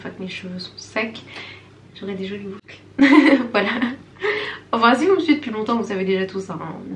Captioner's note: laughs